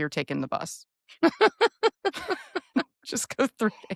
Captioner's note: laughing